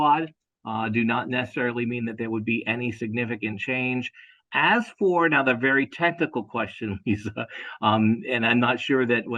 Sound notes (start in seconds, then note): 6.8 laugh